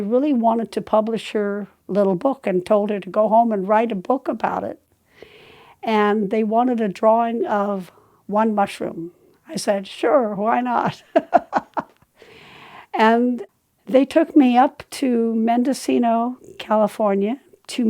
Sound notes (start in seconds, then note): 10.9 laughing